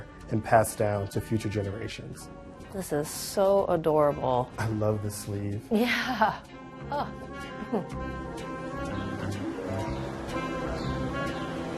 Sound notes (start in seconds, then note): 7.5 chuckles softly; 8.1 mellow music continues